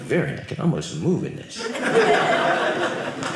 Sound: audience laughing

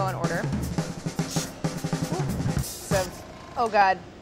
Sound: upbeat drum beat; airbrush spays

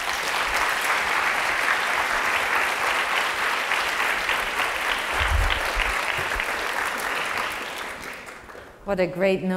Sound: applause

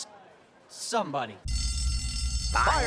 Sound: alarm ringing

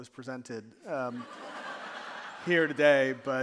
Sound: audience laughing

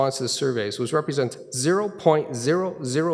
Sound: none

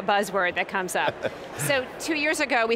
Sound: laughing

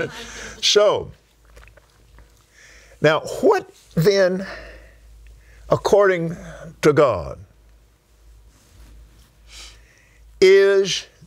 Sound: laughs

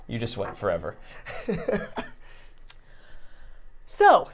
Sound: chuckling

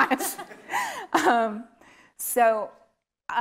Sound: laughing

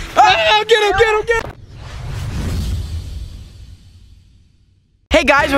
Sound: air whooshing

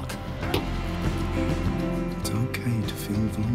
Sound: hitting

